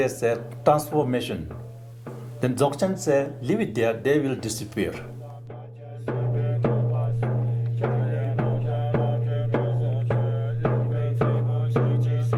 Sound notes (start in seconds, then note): 5.5 chanting